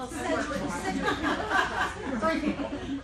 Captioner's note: laughing